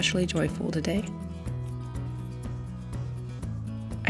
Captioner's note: brush swipes